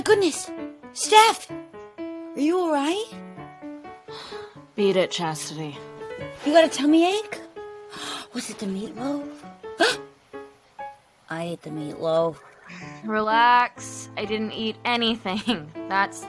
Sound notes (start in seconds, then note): 9.8 Grace gasps